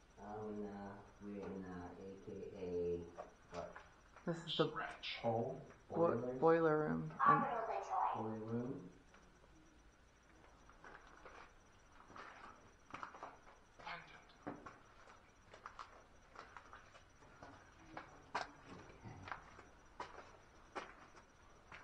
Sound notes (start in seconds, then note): 11.9 footsteps